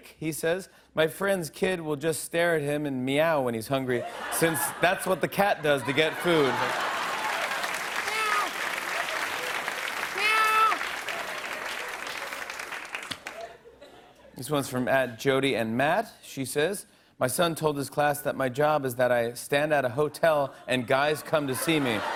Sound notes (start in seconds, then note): 7.1 laughter and applause; 12.4 laughter and applause